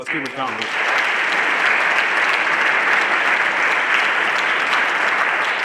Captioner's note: everyone applauding